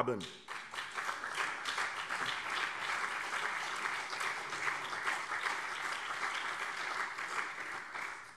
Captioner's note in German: Beifall CDU und SPD